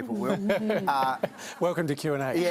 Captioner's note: laughter